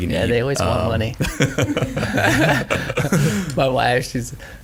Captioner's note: all chuckling